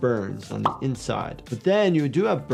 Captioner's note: graphics popping